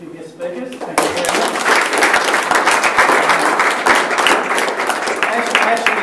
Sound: applause

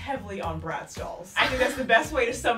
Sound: laughing

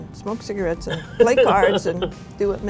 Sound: laughing

